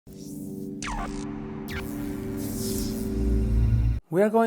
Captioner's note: logo buzzes